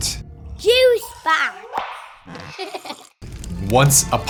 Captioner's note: giggles